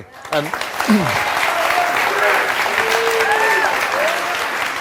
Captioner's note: audience clapping